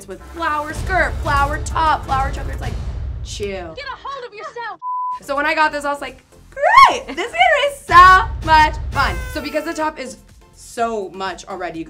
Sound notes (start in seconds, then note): 4.8 TV beeps